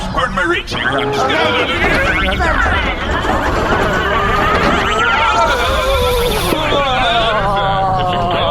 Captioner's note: Dar and C-53 vibrating loudly, sudden ‘pop!’, ongoing vibration noises